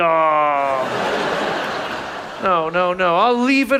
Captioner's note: audience laughs